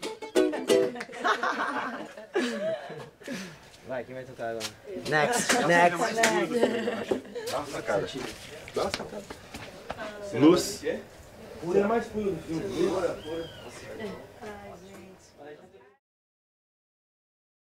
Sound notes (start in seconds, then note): 0.6 all laughing; 3.9 speaking foreign language; 8.2 all speaking in foreign language